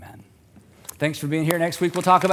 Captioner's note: applause